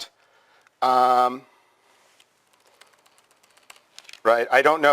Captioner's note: pause